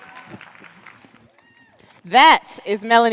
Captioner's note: cheers and applause